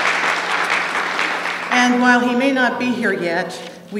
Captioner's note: applause